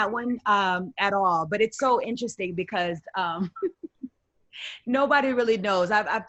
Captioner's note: softly laughs